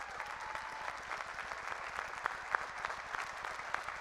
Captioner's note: applause